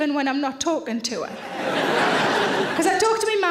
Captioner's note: audience laughing